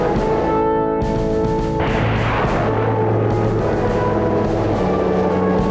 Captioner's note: rocket engine firing